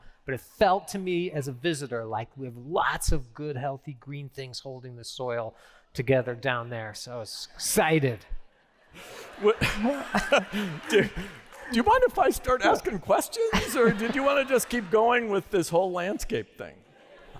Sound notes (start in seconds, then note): 8.6 laughter; 10.4 applause; 13.4 laughter